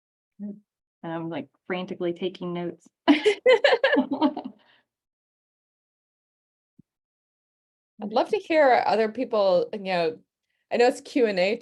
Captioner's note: laughing